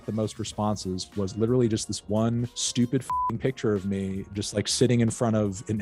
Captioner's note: beep